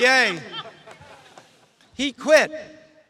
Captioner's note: audience chuckles